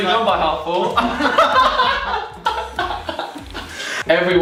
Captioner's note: laughing